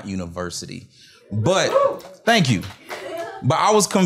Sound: cheers

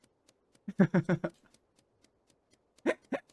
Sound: laughing

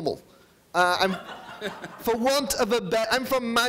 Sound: audience laughing

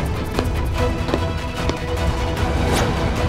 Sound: footsteps

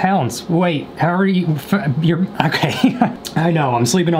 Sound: stammers

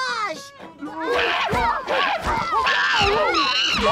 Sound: screaming

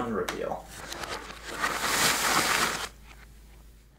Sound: reversed noises

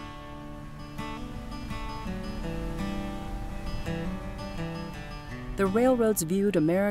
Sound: geiser sound

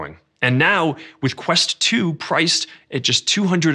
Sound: none

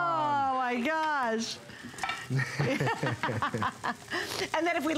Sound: laughter

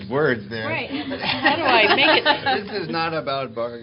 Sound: laughter

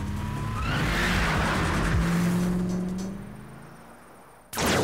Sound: engine revs

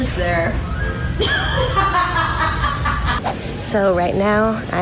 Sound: laughing

